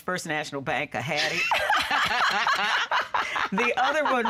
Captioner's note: laughing